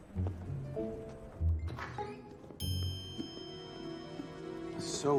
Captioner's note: door opening, bell l ringing